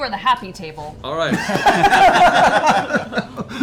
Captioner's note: laughter